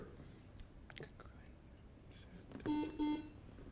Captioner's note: contestants whispering; beep